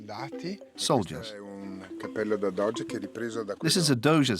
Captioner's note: Italian spoken audio